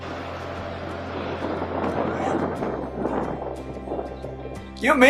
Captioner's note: gunfire in background